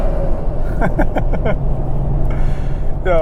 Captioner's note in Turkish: kahkalar